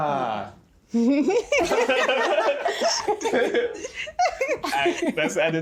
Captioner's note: everyone laughing